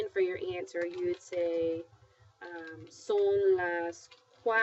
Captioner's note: speaking spanish